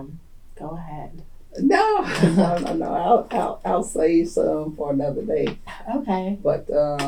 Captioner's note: laughter